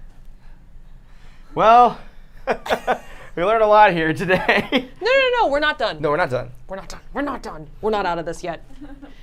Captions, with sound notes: - Well, we learned a lot here today (laughs) - No, no, no. - No, we're not done. - We're not done. We're not done. We're not out of this yet.